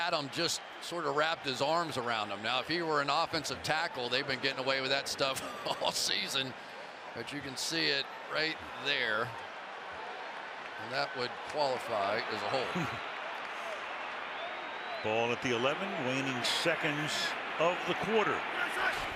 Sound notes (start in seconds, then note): 13.5 chuckles